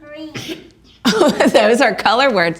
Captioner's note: woman laughing